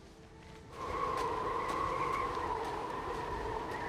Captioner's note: wind whistling